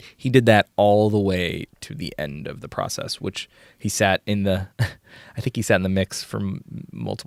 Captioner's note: laughs